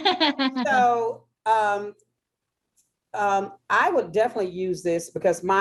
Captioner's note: laughter